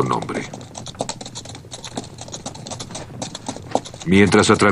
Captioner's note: hoofbeats